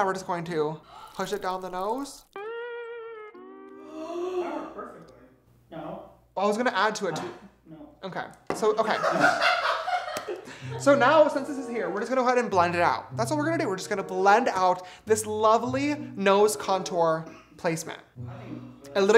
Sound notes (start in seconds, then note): 3.4 gasps; 8.8 laughter